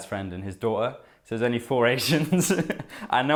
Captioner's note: laughs